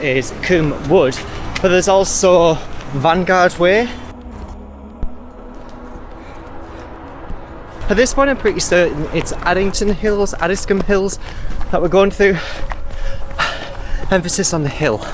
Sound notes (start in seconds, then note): 12.2 panting Heavily